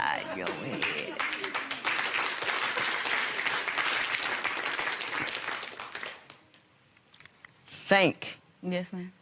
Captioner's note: applause